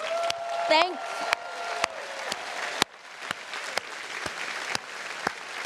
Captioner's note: audience applauding